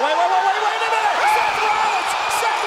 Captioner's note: applause